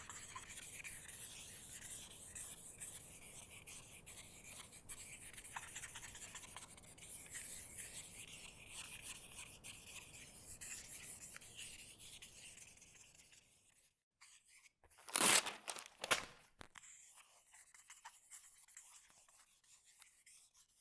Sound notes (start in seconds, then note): 14.9 paper tearing; 17.0 scribbling